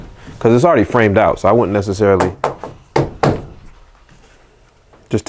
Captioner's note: knocking